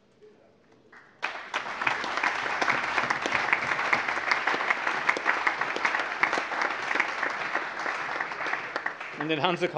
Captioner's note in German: Allgemeiner Beifall